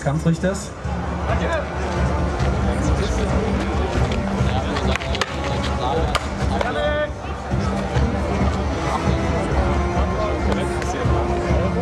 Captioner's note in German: Kampfgeräusche